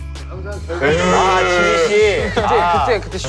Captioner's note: cried